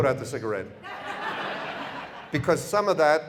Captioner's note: audience laughter